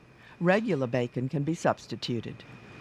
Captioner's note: voiceover